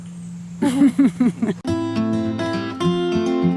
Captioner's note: both laughing; slow music